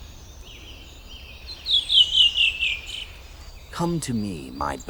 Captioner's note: bird chirping